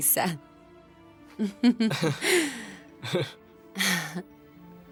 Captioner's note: both laughing